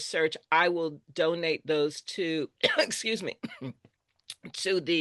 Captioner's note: coughs